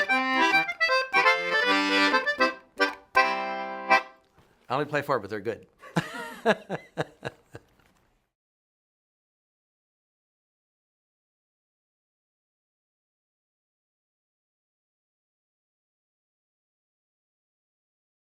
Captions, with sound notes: I only play four, but they're good. (laughs)